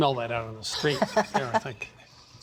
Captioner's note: laughs